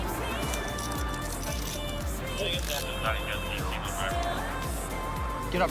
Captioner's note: dispatch chatter